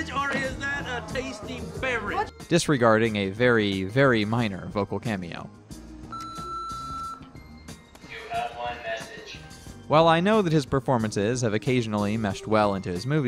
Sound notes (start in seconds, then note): 6.1 answering machine beeps